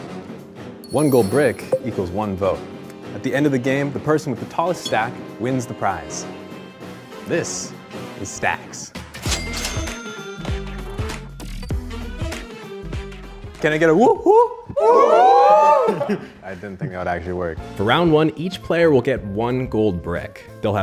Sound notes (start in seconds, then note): 9.2 cash register chimes; 9.9 upbeat music